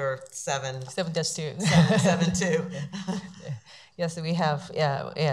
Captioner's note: laughs